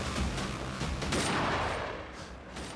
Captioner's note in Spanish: detonación de disparo